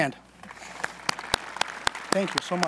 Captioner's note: applause